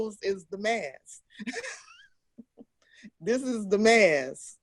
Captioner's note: laughs